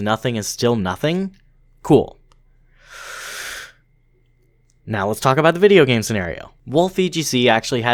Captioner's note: deep breath